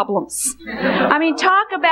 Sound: congregation laughing

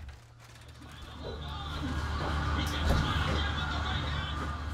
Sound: TV playing

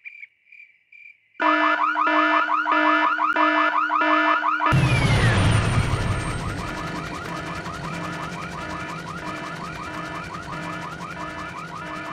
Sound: alarm

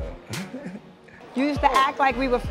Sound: laughs

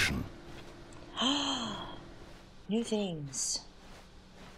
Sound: gasp

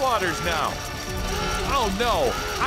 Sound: warning alarm

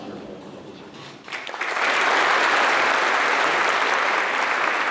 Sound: applause

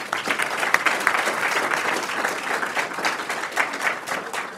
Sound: audience clapping

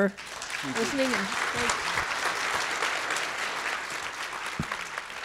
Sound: audience applauds

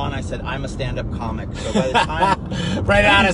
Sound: laughing

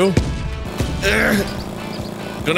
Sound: grunting

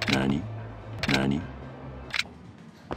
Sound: seductive voice

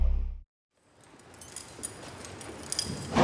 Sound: metallic jangling; heavy metal door slams

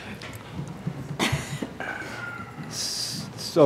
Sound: laughter

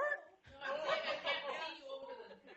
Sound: laughter

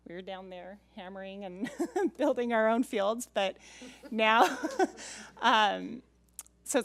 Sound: laughs

